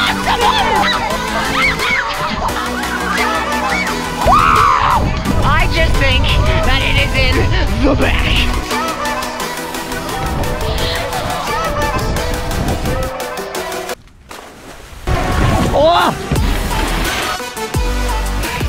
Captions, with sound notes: (all screaming) - Whoo! - I just think that it is in the back. (upbeat electronic music continues) (water splashing) - Whoa!